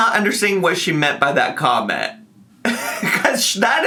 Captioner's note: laughs